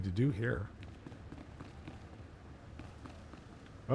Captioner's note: footsteps